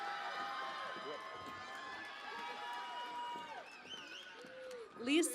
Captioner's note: cheering and Applause